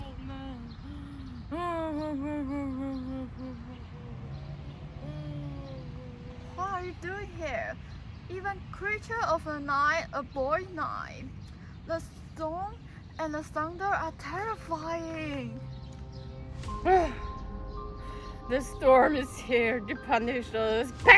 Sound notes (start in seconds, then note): 0.0 incoherent babbling